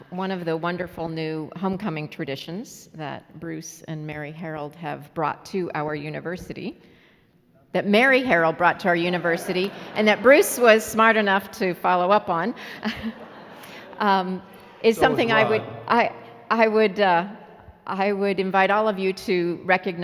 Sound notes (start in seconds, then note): 12.5 laughing